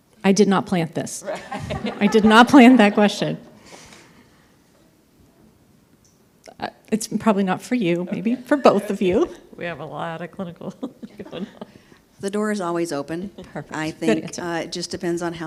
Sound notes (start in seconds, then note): 1.2 everyone laughs